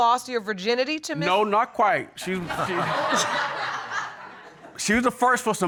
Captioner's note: audience laughing